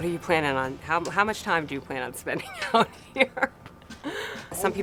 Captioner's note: laughs